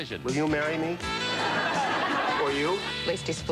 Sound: laugh track

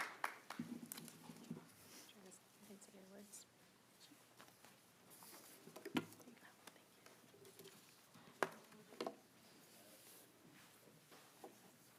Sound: applause

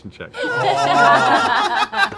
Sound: laughing

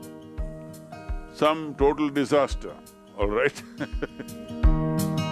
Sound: laughs

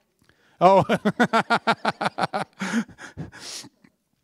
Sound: laughter

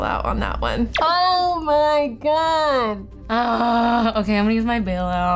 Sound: groaning

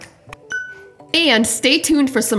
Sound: bell dings

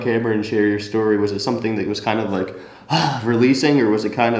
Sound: sighs

